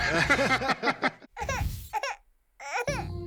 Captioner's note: laughter; baby crying